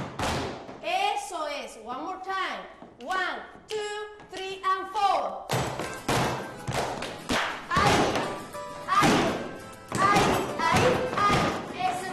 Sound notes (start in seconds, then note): 1.2 speaking in Spanish; 5.5 dancers tapping; 5.5 lively music